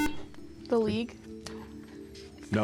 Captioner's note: buzzer